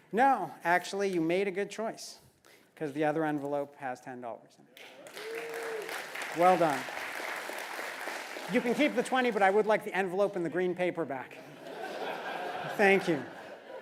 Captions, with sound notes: >> No actually, you made a good choice. Cuz the other envelope has $10 in it. >> [APPLAUSE] >> Well done. >> [APPLAUSE] >> You can keep the 20, but i would like the envelope and the green paper back. >> [LAUGH] >> Thank you.